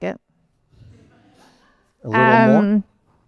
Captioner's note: laughter